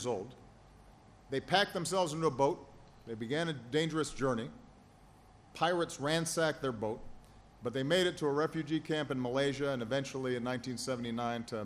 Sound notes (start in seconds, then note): none